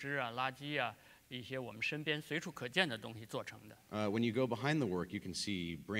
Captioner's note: speaking in Chinese